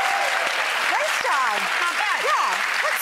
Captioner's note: audience applauds